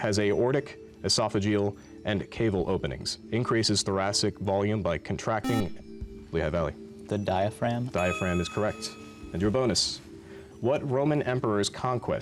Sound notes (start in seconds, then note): 5.4 buzzer